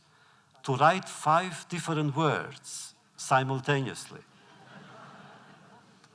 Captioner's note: laughter